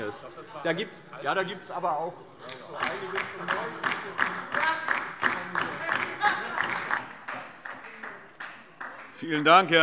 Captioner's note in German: Beifall DIE LINKE - Zuruf Minister Michael Boddenberg